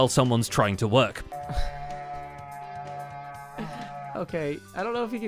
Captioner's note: goat Horn Sounds; chuckles